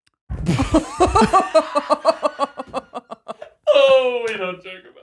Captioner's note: laughing